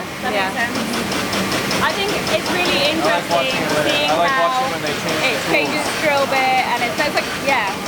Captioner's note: machine noises